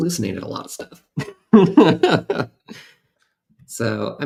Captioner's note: laughter